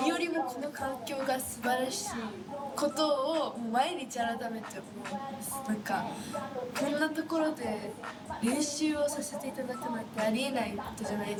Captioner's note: speaking in foreign language